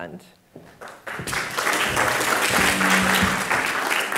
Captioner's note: applause